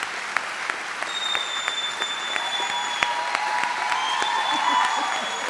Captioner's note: audience shrieks